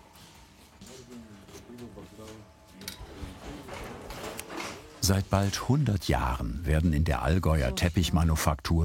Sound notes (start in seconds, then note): 0.8 quiet conversation in the background